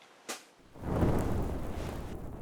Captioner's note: whoosh